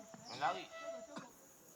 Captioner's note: crickets chirping